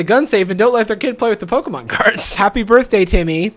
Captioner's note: laughs